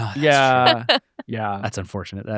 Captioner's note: chuckling